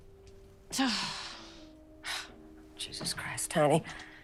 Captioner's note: sighs